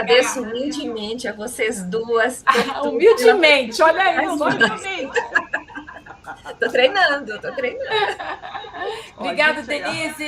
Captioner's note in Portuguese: risadas